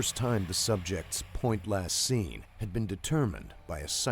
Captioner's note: voiceover